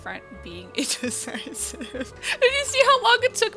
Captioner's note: laughs